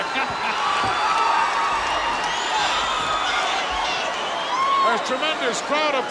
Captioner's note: audience cheers; Hayes chuckles